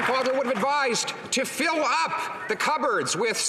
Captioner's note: some Applause